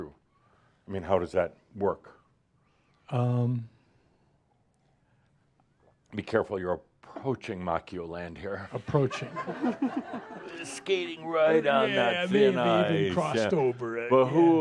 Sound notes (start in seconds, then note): 3.6 he pauses; 9.9 some chuckles